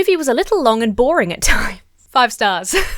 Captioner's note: laughs; chuckles